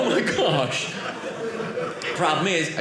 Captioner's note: audience laughing